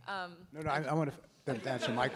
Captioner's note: laughs